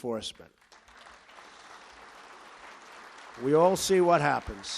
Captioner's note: applause